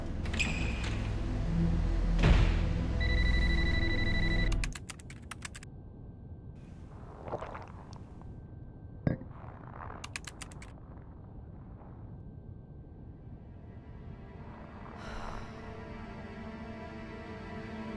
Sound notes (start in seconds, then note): 4.0 phone rings; 4.5 keyboard clicks; 13.6 dramatic music